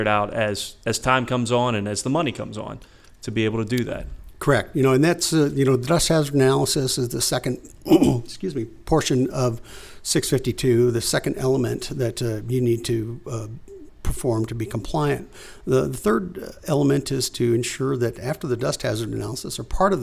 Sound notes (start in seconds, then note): 7.8 cough